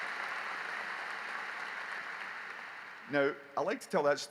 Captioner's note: applause